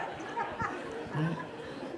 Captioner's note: laughter